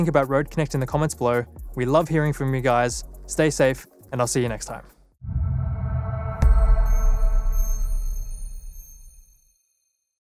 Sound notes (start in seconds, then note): 6.1 logo chiming